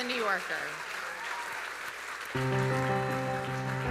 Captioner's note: audience applauding; audience cheering; gentle music